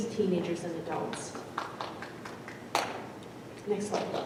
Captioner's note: audience member claps